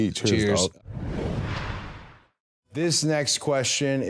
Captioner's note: logo whooshing